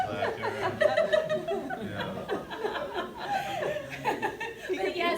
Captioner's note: laughter continues